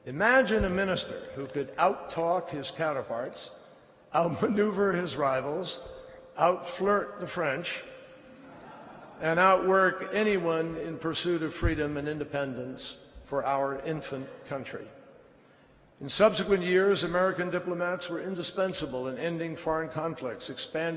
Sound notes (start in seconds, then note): 8.4 laughter